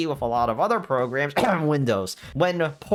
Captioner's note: comedic cough